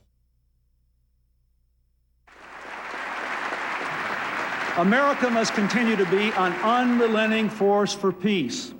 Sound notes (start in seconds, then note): 2.2 applause